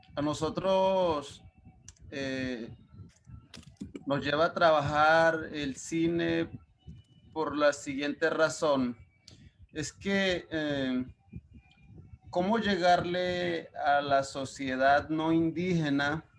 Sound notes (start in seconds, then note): 0.1 speaking Spanish; 4.0 speaking Spanish